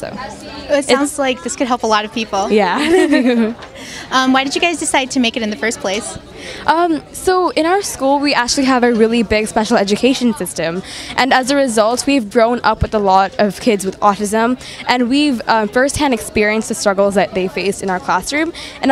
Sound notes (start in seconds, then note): 2.8 all laugh excitedly